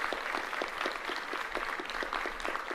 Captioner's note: applause